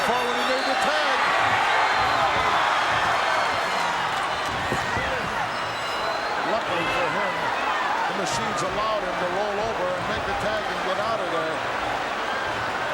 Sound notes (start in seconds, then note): 1.7 audience cheering